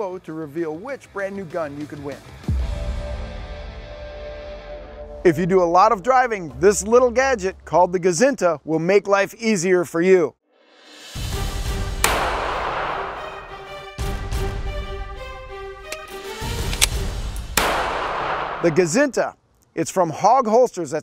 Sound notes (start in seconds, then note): 11.9 gun fires; 13.3 dramatic music; 16.5 gun fires